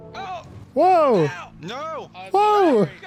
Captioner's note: yells